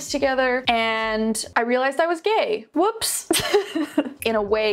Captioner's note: laughs